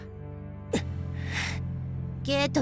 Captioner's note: seething